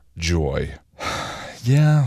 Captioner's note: deep sigh